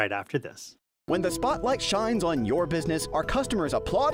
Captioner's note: voice-over